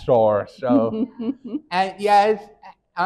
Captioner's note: chuckles